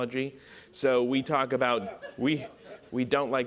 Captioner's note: audience laughs